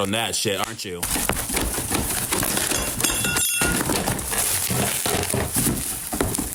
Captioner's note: box rattling; metal clanging